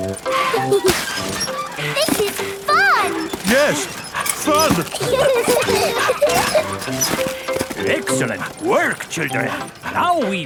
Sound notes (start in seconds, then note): 0.2 mummy and daddy pig panting; 0.2 peppa and george laughing; 3.7 straining; 5.3 peppa and george laughing